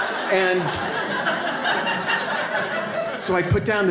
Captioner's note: audience laughs